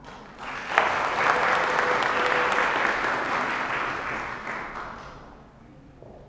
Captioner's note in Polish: oklaski